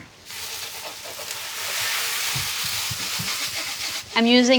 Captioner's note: shallots sizzling